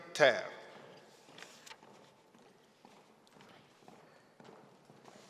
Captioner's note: heels clicking on floor